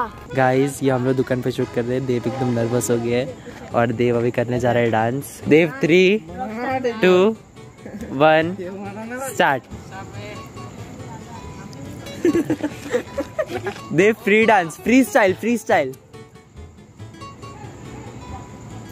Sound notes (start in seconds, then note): 12.0 laughing